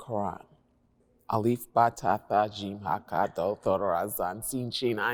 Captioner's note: non-english speech